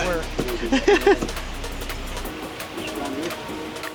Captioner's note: laughs